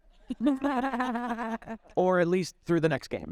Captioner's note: all chuckling